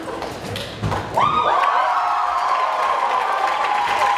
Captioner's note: wild cheering